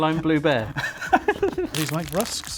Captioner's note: laughing